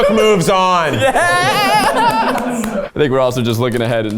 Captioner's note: laughs; cheers